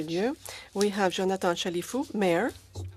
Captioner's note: speaking in French